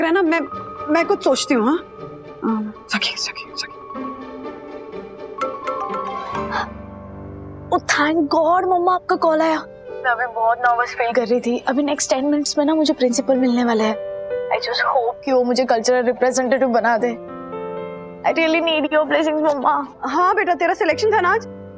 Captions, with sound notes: I'll think of something. Sakhi. [phone rings] Thank God, mom you called. I was feeling really nervous. I'll be meeting the principal in the next 10 minutes. I just hope that he makes me the Cultural Representative. I really need your blessing, mom. Yes. It was your selection today, right?